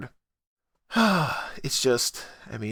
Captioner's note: fed-up SIGH